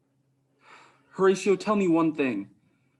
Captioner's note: sighs